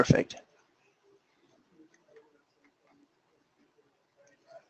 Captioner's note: pause